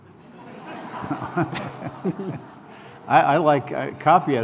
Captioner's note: laughter